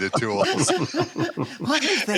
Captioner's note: laughter